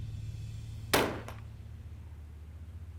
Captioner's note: gunshot